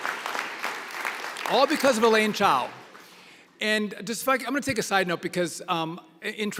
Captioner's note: applause